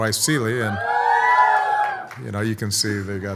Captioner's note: audience cheers